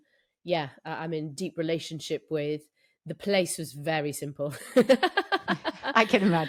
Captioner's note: laughs